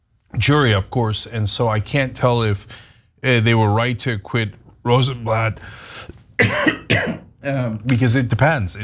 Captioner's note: cough